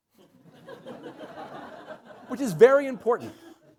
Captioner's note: laughter